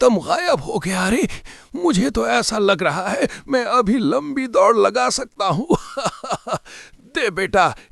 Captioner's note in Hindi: हंसी